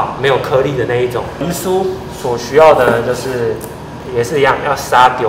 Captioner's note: haha